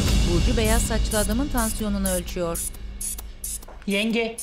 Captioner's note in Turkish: Müzik - Duygusal; Tansiyon aleti sesi